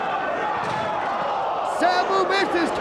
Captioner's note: spectators exclaiming